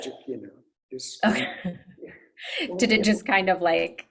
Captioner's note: laughs